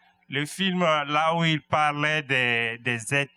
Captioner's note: speaking french